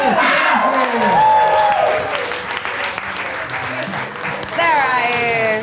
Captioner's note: audience cheers; audience applauds